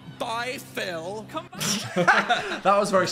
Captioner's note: both laughing